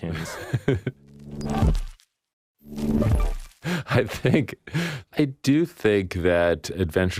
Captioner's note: laughs